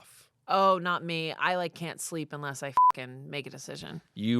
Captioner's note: beep